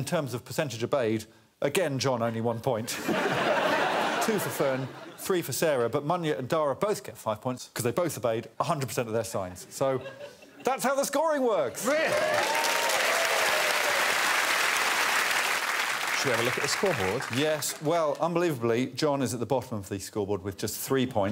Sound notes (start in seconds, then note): 2.5 audience laughing; 11.8 applause